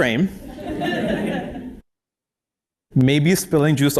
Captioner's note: laugh